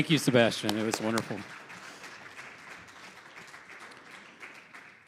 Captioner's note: audience applauding